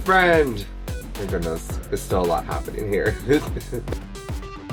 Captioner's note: nervous laughter